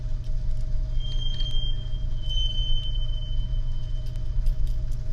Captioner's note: train wheels squealing outside